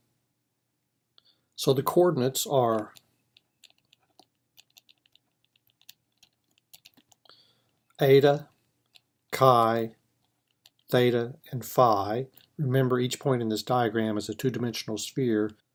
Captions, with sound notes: So the coordinates are -- [ Typing ] eta, chi, theta, and phi. Remember each point in this diagram is a 2 dimensional sphere